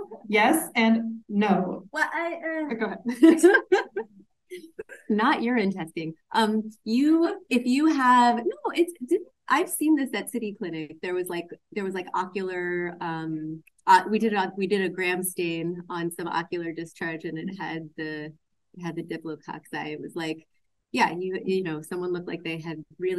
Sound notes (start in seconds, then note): 3.1 laughs